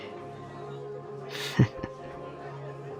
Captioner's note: chuckle